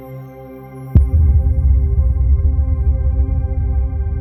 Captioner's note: low rumble sound